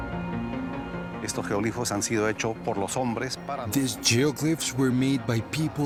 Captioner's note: speaking Spanish